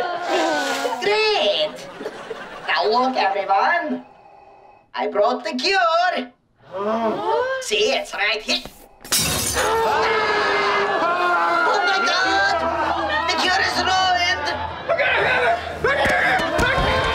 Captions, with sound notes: Great. Now, look, everyone. I brought the cure. What? See, it's right h-- [groaning] Oh, my God! The cure is ruined! [grumbling, groaning]